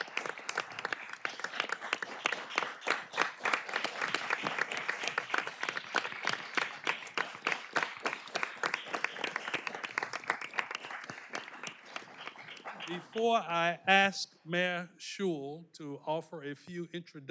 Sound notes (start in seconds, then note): 3.2 applause